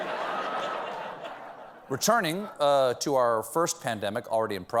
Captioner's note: laughter